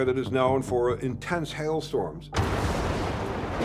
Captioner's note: lightning cracks